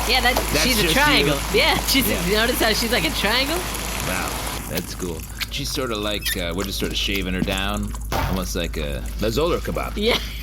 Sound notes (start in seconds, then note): 3.7 shutting off the water